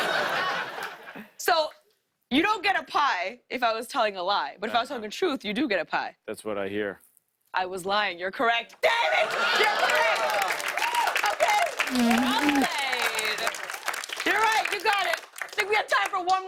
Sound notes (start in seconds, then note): 0.0 laughter; 9.1 applause; 11.2 sputtering